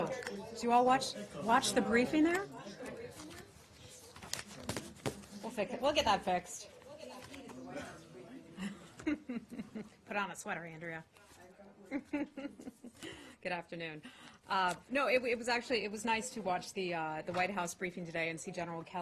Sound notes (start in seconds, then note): 11.8 laughter